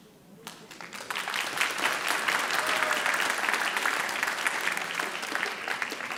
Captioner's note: audience cheering and applauding